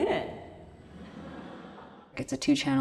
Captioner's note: audience laughs